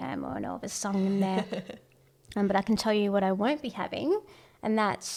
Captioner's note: laughs